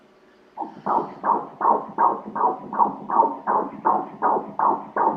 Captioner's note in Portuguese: batimentos cardíacos